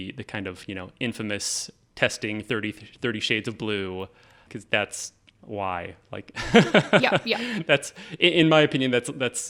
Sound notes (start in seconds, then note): 6.4 laughing